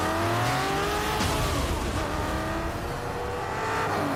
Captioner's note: tires screeching